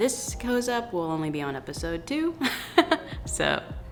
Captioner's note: she laughs